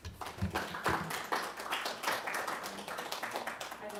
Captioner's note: applause